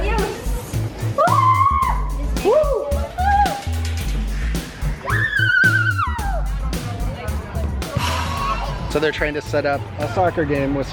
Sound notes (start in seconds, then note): 1.2 screams; 5.1 screams